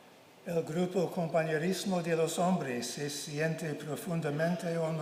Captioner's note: speaking in Spanish